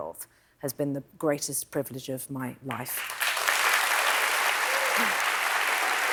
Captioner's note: applause